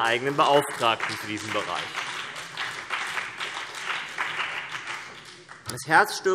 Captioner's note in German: Beifall CDU und BÜNDNIS 90/DIE GRÜNEN